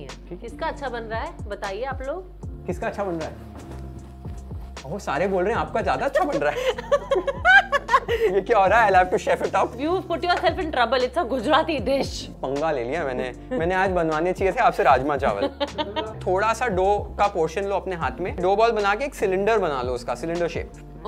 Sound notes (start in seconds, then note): 6.2 giggles; 15.4 laughs